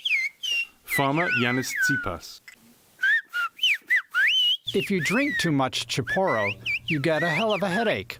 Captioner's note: through translator